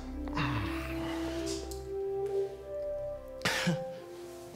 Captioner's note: groans; laughs